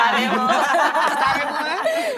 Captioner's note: laugh